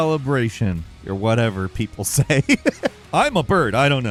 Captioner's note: laughs